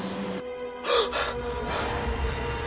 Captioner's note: eddie gasps